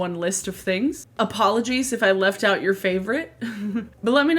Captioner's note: laughs